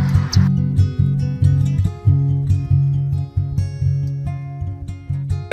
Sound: kiss

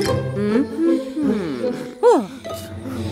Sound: puzzled sigh

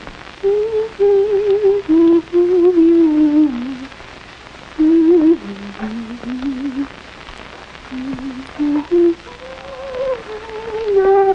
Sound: humming happily

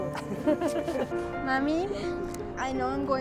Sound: laugh

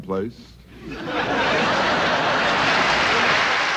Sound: laughter

